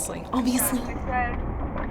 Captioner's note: dramatically